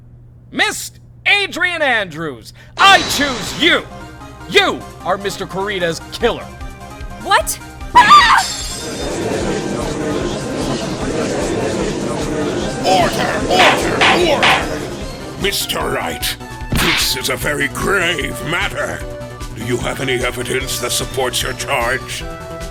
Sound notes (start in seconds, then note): 9.1 gallery chattering; 13.6 gavel slams!